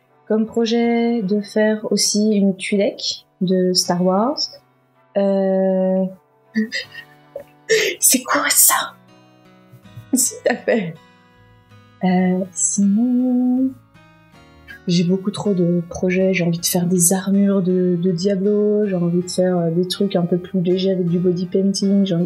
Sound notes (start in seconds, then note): 6.3 starts laughing